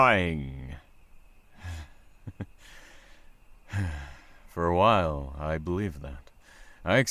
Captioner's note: sigh